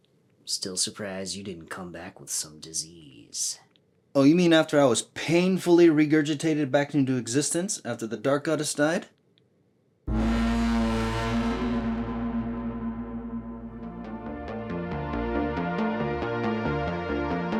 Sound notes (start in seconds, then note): 10.0 booming horn sound; 13.9 mysterious music